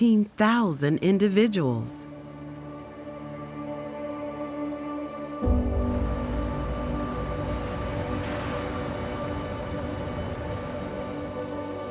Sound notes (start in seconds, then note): 2.0 birds chirping; 2.0 soft serene music